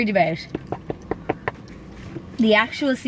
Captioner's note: knuckles knocking